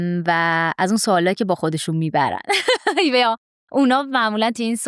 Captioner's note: laughs